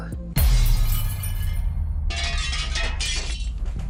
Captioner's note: glass breaking